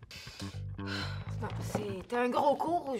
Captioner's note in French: soupir